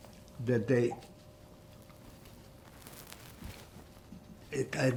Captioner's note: wiping nose